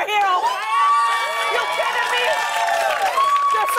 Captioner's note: cheers and applause